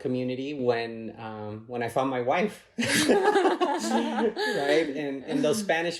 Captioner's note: laughs